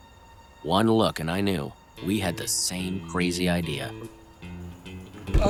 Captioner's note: remy voiceover